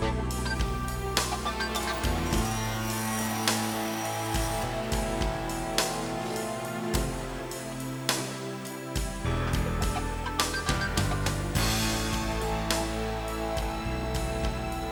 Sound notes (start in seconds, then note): 3.1 machine whirring